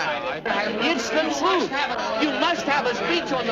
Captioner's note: crowd murmuring